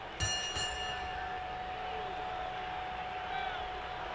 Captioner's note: bell rings